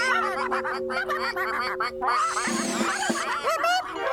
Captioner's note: ducks Quacking